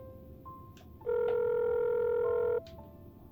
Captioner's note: phone ringing